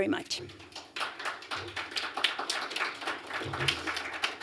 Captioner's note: applause